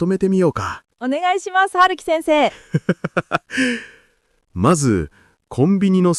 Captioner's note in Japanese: 笑い; 息をのむ音